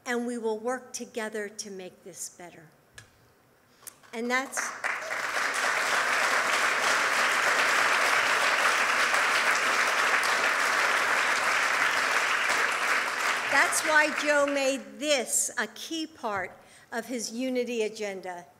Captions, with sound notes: And we will work to make this better. And that's -- (applause) -- that's why Joe made this a key part of his Unity Agenda.